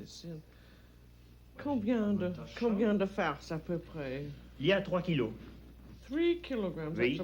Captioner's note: both conversing in French